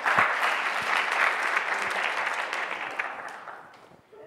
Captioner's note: audience clapping